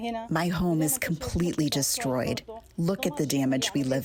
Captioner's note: through translator